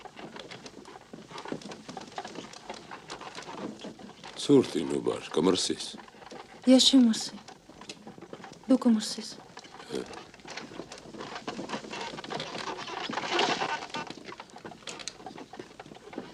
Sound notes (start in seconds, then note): 11.8 crack